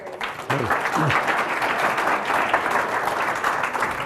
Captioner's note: applause